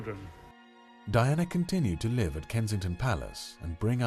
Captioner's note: voiceover